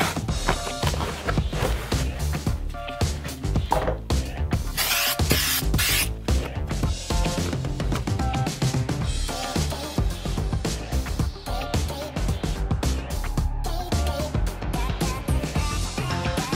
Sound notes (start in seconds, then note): 4.8 spraying